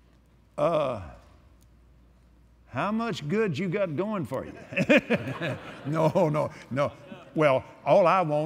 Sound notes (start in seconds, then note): 4.6 laughs